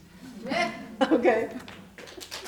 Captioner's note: applause